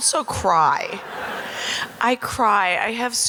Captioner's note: audience laughing